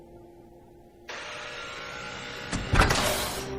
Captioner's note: door buzzes